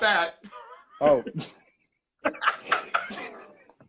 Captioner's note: laughing